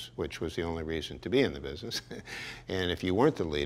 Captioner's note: chuckles